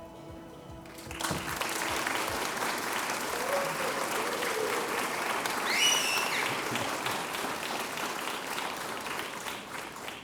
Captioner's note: applause